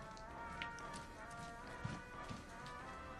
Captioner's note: TV pIaying